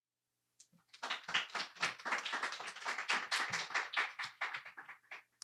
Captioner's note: audience applauding